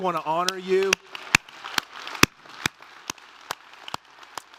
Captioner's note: todos aplaudiendo